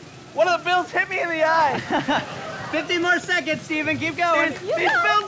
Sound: laughter

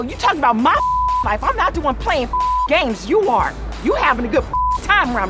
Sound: beep; beep

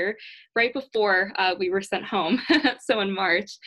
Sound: giggles

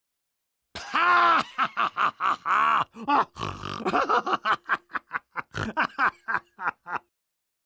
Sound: laughing

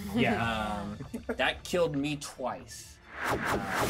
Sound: speaker chuckles; thrilling music

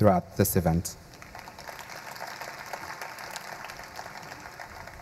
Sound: audience applauding

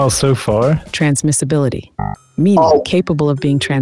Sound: error beeps

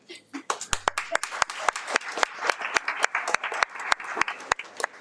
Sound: audience applauds

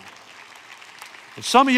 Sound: congregation applauds

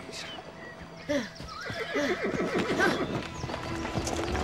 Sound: Drago grunts

